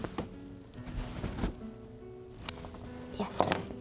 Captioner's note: rustling